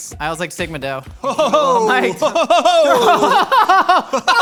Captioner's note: exclaims; men laughing